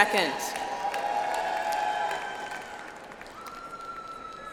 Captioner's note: audience applauds